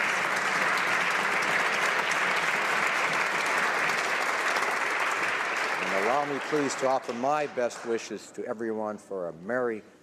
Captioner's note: applause